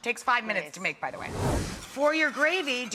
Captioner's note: soft whooshing